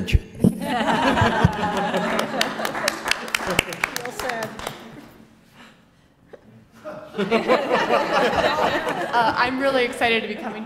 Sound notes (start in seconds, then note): 0.6 laugh; 1.4 applause; 6.8 laugh